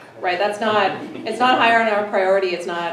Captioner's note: everyone laughs